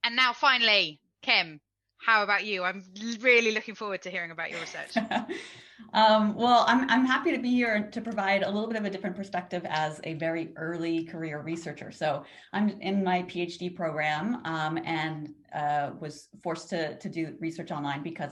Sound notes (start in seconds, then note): 4.5 laughs